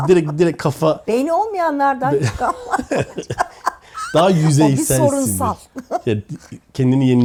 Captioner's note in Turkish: kahkaha